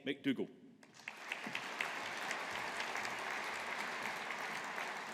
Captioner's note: audience applauding